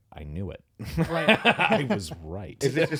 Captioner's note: laughing